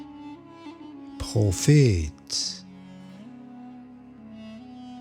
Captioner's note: german